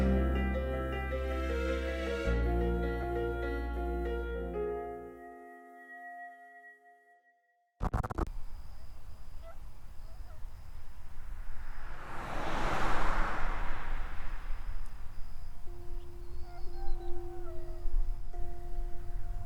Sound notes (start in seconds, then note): 12.5 car whooshing